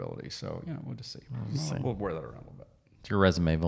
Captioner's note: murmuring